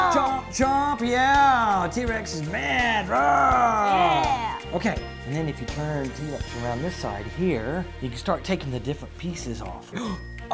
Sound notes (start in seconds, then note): 3.1 growls